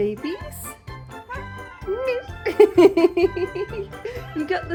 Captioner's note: meow; laughing